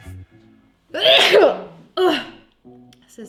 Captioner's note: sneezes